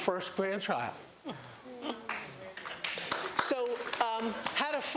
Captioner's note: applause